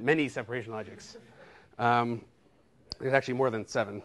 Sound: laughter

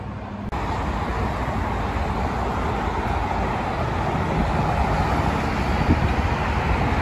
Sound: traffic noise

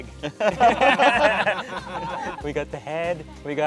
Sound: all laugh

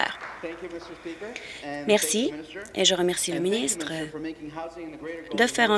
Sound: applause

